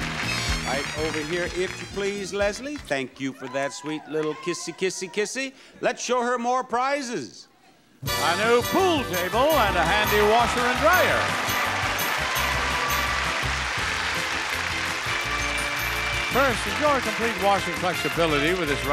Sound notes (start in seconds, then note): 12.5 audience applauding